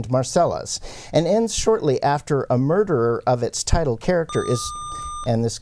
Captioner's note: buzzer